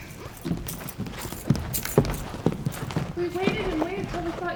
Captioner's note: footsteps exiting